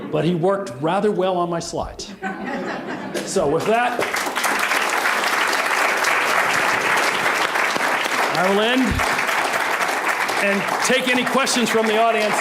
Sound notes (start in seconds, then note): 3.5 applause